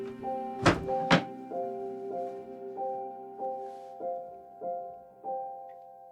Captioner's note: dramatic music continues; drawer closing